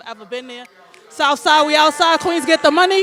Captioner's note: audience snaps and cheers